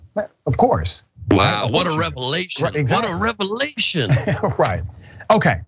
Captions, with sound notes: Of course. >> Wow, what a revelation! >> [LAUGH] Right, okay.